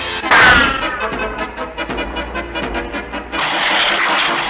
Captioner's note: crash!